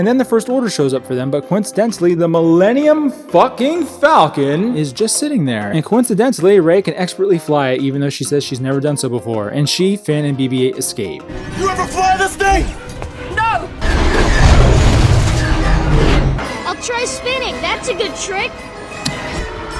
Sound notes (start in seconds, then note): 13.6 explosion